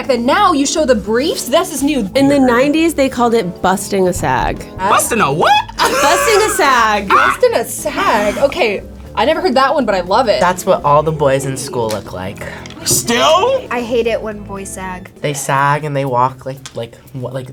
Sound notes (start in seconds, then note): 5.3 laughs